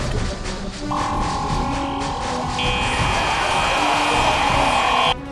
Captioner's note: cybermen groan; laser gun stunning energy releasing